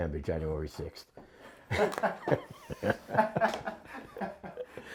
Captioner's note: laughter